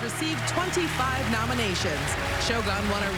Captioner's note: applause